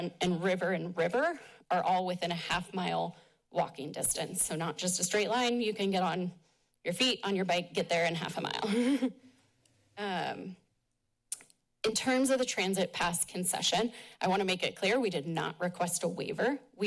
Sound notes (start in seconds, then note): 8.7 chuckles